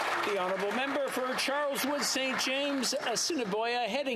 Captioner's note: some Applause